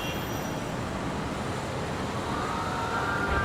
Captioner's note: horn honking